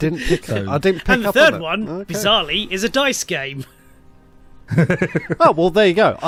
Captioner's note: laughs